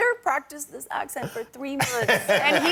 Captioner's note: laughter